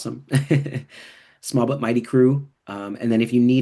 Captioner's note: chuckles